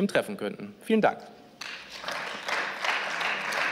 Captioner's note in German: Beifall